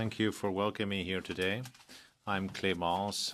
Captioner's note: speaking French